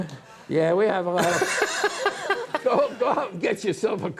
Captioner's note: laughing